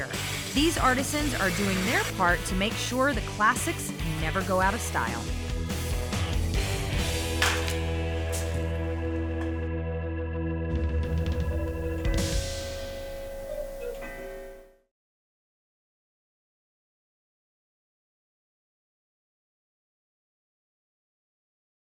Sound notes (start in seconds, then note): 7.2 bat cracks; 11.3 cuckoo clock